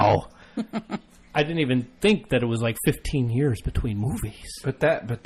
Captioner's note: laughs